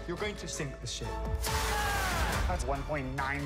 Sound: Adam cheers

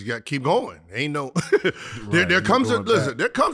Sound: Gilbert laughs

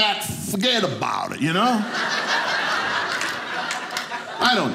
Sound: audience laughing

